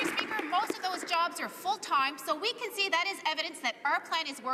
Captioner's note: some Applause